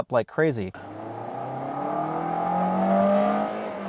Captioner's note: car speeding